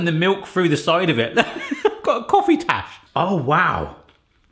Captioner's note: laughs